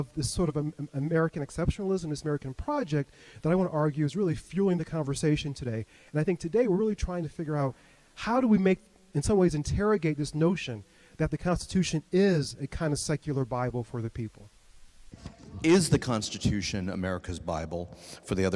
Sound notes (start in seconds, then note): none